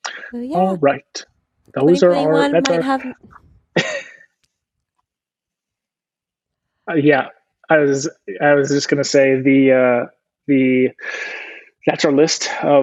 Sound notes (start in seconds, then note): 3.7 laughs